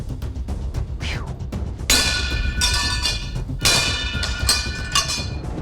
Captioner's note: whispering; chimes